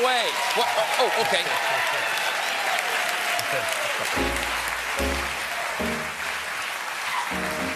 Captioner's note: laughter